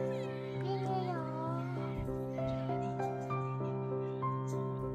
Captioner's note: humming happily